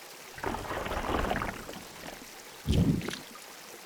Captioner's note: none